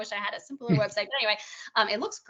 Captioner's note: chuckling